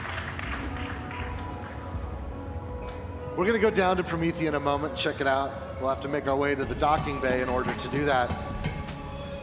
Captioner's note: applause